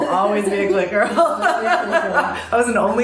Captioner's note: laughter